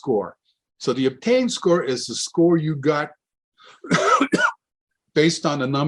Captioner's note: coughs